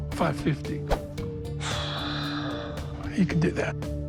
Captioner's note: sighs